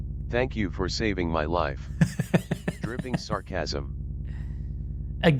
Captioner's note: dripping sarcasm